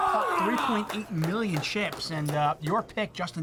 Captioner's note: crowd clapping